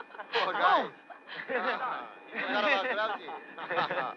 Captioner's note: all laughing